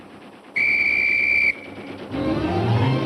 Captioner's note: blows whistle; tense music